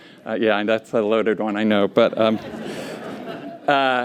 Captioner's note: laughter